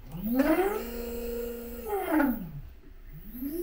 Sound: laser whines

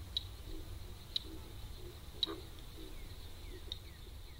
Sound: flies buzzing

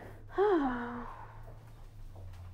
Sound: sighs

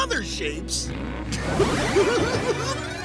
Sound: giggling

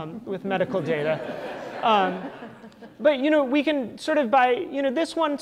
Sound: audience laughter

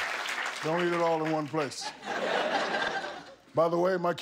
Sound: laughter and applause

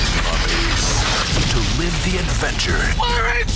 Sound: voiceover

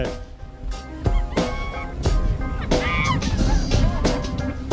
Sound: screaming and laughing

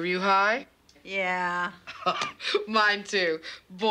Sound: laughs

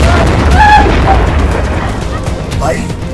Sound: screaming

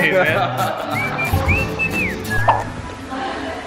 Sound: laughing

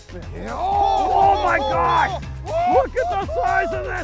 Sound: cheering

